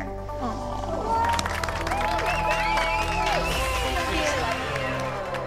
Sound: cheers and applause

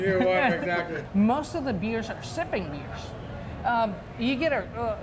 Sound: laughs

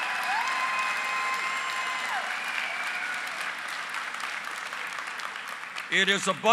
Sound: applause

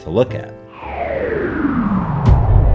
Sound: fwooooosh

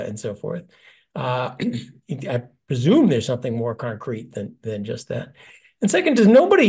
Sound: cough

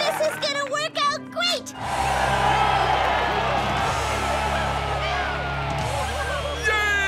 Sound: cheering

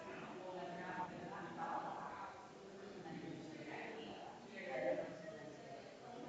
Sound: people chattering distantly continues

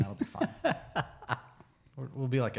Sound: laughs

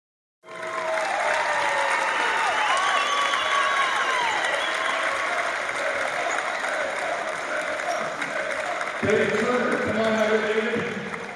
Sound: cheers and applause

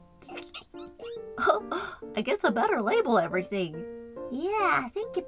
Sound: giggle

